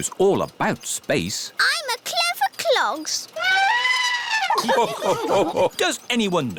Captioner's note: trumpets; all laugh